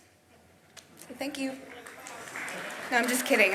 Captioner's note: audience applauds